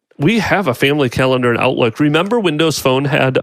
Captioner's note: none